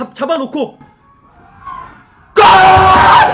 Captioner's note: cheers heard from afar